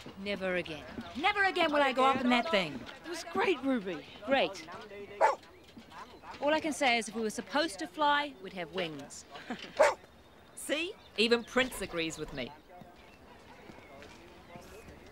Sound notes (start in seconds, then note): 9.3 laughs; 9.8 dog barks